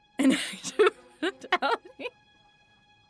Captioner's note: laughter